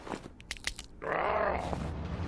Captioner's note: broken elbow sound